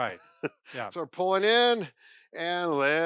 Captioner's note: laughs